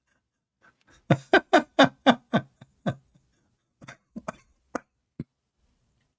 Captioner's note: Ketawa